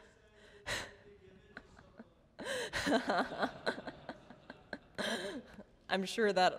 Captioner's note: laughter